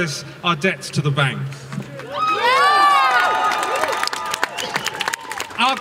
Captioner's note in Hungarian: Taps és éljenzés